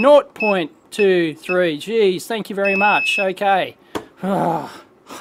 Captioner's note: frustrated sigh